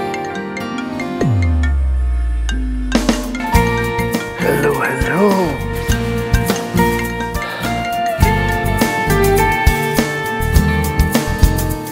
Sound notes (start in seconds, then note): 0.1 cell phone ringing; 7.2 sighs